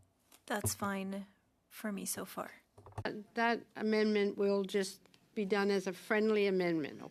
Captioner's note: speaking French